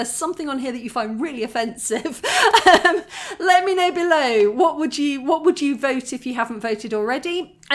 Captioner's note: laughing